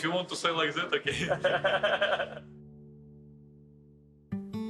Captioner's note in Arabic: يضحك المدرب; موسيقى تأملية